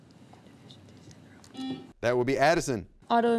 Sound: buzzer beeping

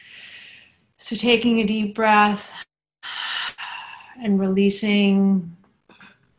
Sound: inhales

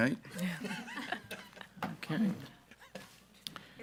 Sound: group laughing

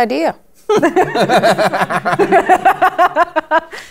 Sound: laughter

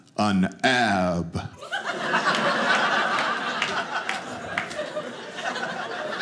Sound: audience laughing

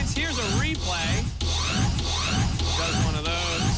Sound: scratching

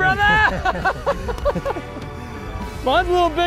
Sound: both laugh

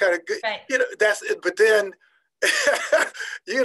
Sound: laughing

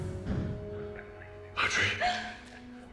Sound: gasp

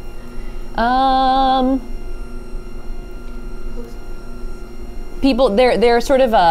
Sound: machine whirring continues

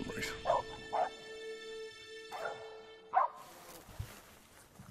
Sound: dog barking

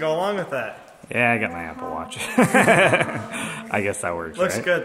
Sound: laughs

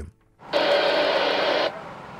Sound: radio static

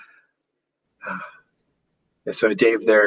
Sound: chuckles inaudibly

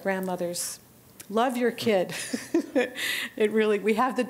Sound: laughter

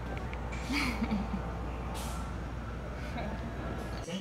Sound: Savannah laughs

